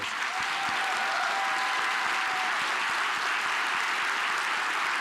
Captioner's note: audience applauds and cheers